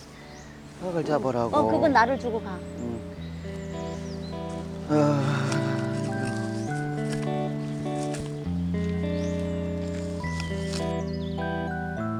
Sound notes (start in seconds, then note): 4.6 sighs